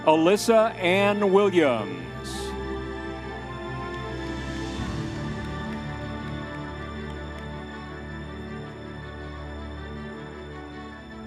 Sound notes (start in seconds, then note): 2.6 audience members cheering; 4.8 dramatic orchestral music